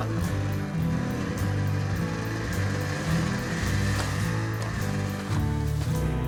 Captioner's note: bright music; bikes whirring